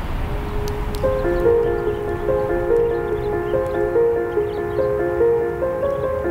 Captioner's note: birds chirping; light music